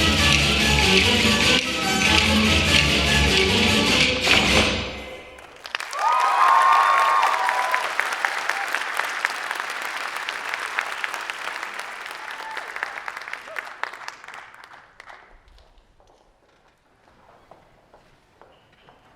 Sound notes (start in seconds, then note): 5.3 applause